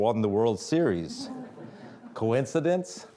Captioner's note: audience laughing